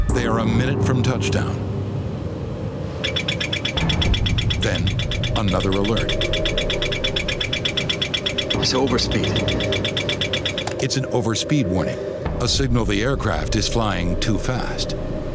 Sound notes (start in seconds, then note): 3.2 alarm sounding